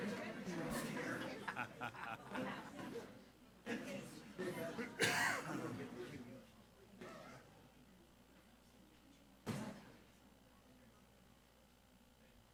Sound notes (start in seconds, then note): 6.2 crowd chattering continues